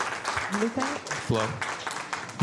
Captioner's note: applause